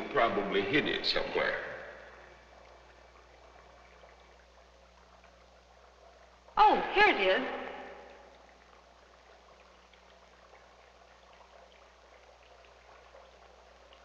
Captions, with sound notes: He probably hid it somewhere. (liquid bubbling) - Oh, here it is.